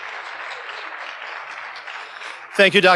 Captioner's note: audience applauding